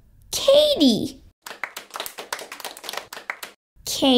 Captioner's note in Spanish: Aplausos